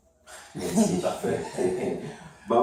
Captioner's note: laughs